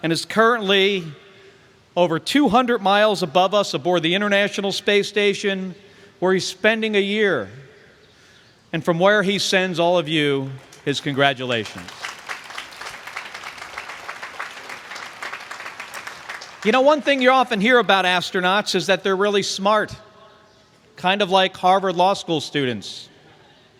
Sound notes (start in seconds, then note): 10.4 applause